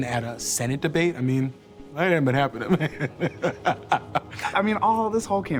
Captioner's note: laughs